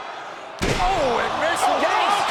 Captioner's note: canvas slams